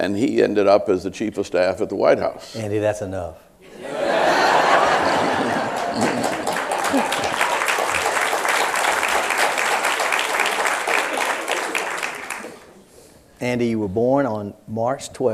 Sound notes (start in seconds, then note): 3.7 laughter and applause